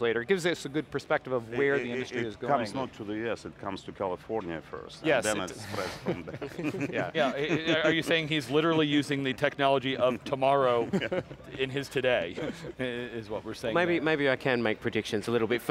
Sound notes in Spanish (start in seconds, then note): 5.7 risas